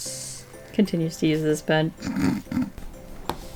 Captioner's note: laughs